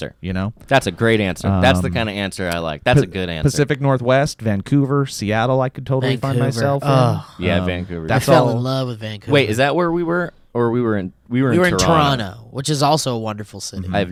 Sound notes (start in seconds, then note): 6.6 sighs